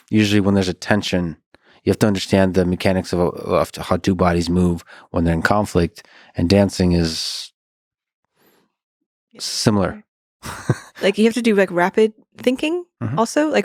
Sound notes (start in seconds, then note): 10.4 laughs